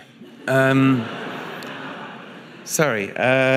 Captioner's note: audience laughing